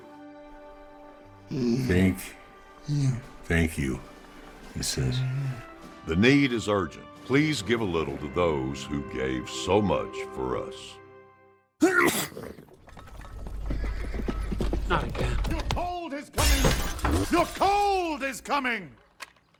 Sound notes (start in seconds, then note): 11.8 sneeze; 14.4 hooves approaching